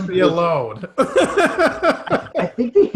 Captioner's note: laughing